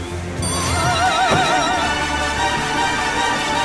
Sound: bell ringing; dramatic music

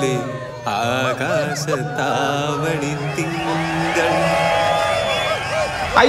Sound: singing an old malayalam song badly; overlapping boo from the crowd

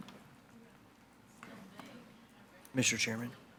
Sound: audience chattering

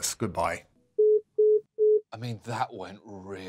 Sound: phonecall endtone beeps

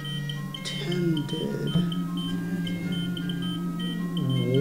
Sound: echoing voices: Tended

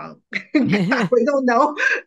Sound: laughs

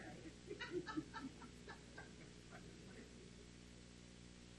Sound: laughs loudly

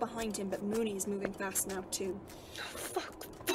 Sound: scuffling footsteps

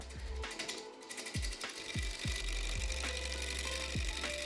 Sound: lathe buzzing

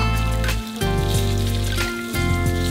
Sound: sizzling

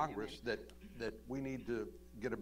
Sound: laughs

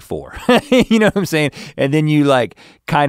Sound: laughs

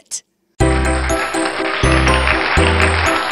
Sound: applause

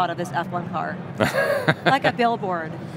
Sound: laughter

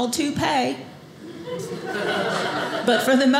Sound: audience laughing

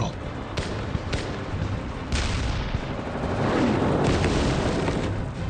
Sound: dramatic music; shots cracking

